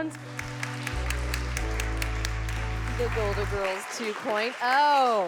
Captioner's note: all applauding